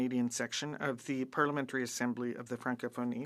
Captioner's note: speaking French